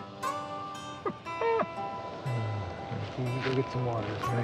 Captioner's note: Dave sobbing